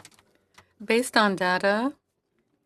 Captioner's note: speaking French